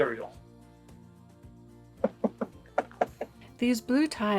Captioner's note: knock knock knock